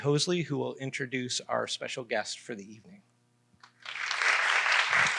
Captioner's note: applause